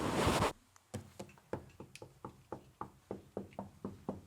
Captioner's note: tapping wood